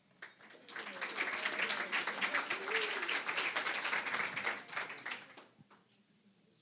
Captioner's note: applause